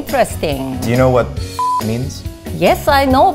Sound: beep

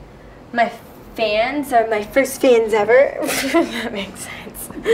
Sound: laughs

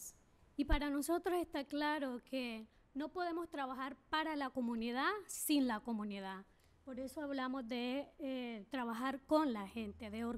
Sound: speaking spanish

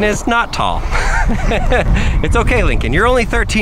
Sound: host laughing

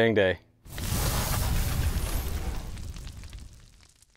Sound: logo crackling

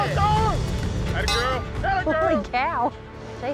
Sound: yelling; bell clangs

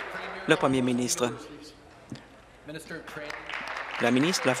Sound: applause

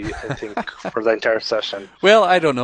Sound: laughs

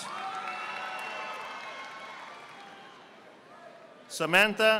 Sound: audience applauding

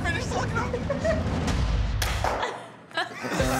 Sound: laughs; laughter

